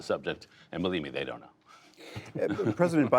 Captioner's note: laughter